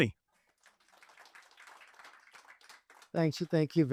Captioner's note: applause